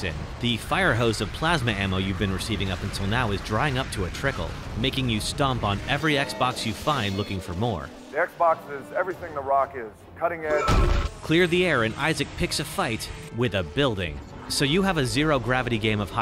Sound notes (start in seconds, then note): 10.2 Isaac stomps